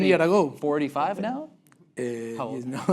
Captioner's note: laugh break